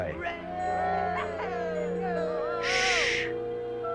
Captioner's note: cheers